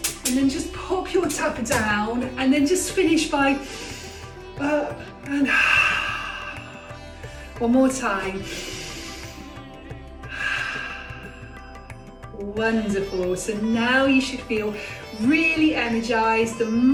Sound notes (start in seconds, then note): 5.4 breathe in; 5.4 breathe out